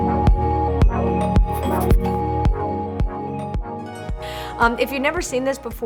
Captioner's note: uplifting music; text scribbles